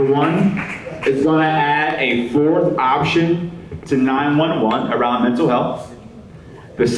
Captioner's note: applause